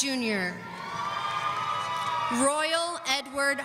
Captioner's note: audience cheering